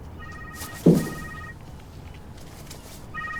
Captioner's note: phone rings